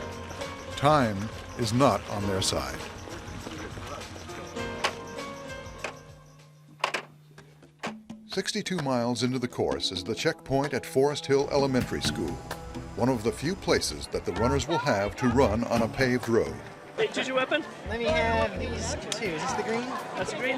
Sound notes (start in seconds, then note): 5.7 clock